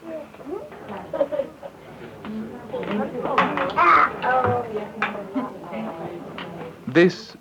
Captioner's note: women talking